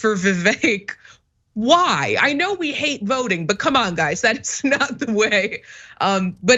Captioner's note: laugh